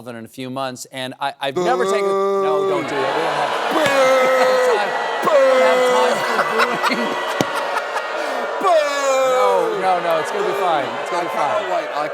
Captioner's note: booing